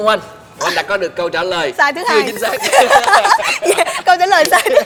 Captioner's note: laugh